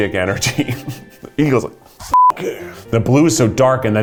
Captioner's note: beep